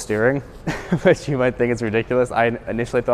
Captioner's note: laughs